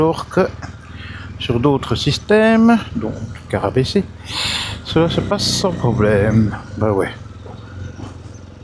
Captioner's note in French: grognement